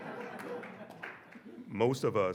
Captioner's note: audience laughing